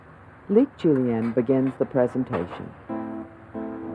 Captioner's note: voiceover